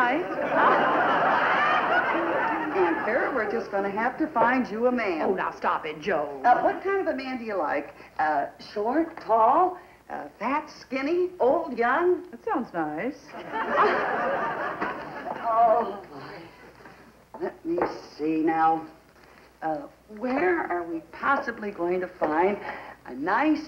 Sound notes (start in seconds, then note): 0.2 laughter; 13.3 laughter